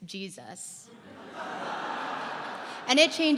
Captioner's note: laughter